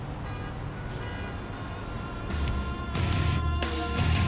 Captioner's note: cars honking; intense music starts